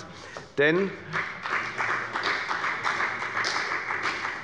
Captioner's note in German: Beifall bei der FDP